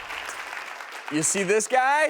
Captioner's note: applause